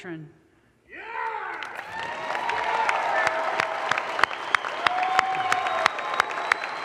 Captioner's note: audience cheers and applause